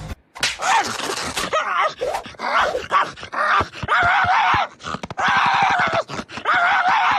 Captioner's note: sounds of angry dog, look at him, ta angry, why will he be angry?: 0